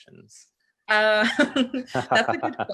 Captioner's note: laughter